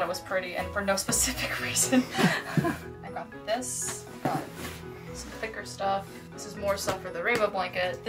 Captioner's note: laughter